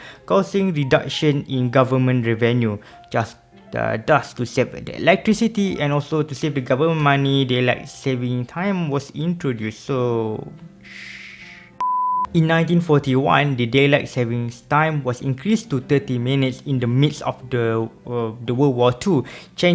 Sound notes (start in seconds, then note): 10.8 shhhhh